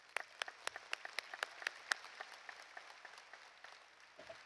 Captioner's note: applause